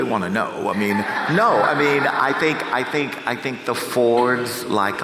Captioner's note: audience chuckles